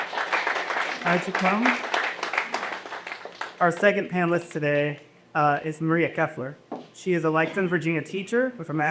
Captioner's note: applause